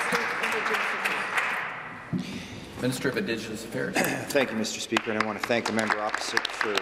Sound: applause

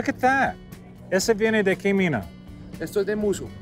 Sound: speaking Spanish

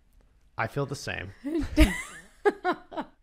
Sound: laughs

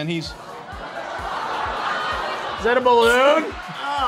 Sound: audience laughs

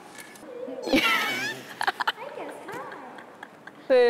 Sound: hahahaha

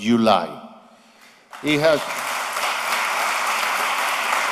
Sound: applause

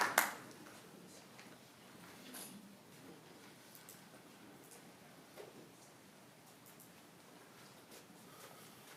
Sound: applause

